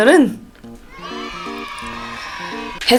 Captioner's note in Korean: 환호하는 소리